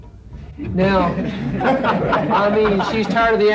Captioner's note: crowd laughing